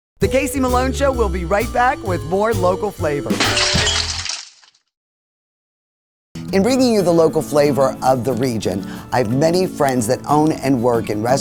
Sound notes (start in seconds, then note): 3.5 glass shutters